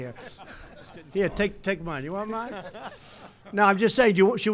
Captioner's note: laughter